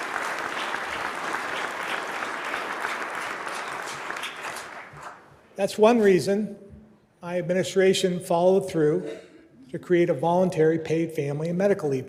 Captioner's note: applause